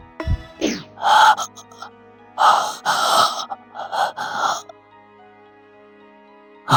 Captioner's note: panting